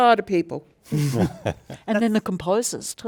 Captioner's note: participants laugh